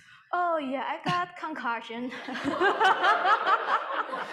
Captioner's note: audience laughing; laughs